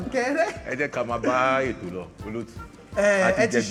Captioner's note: laughs